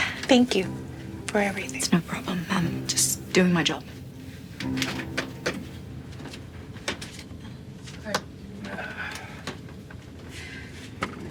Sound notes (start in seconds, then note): 8.6 groans